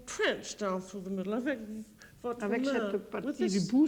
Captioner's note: conversing in French